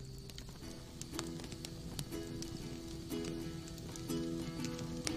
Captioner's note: crackling